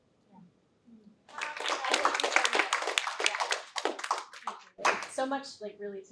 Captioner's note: applause